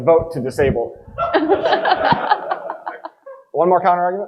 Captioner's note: audience laughing